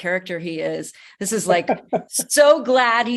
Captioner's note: laughing